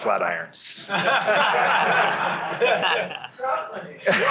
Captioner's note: laughter